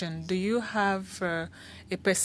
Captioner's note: speaking French